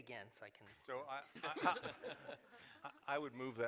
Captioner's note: laughter